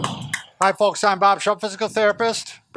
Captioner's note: clapping